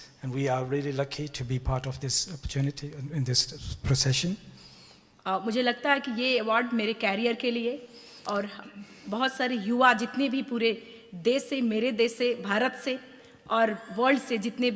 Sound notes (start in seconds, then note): 5.8 speaks in foreign language